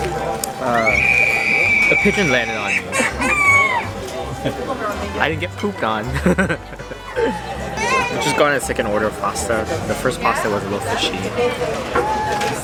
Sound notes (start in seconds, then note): 2.7 baby crying; 6.0 nervous laugh